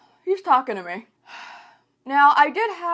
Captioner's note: sigh